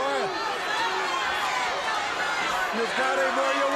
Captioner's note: crowd cheering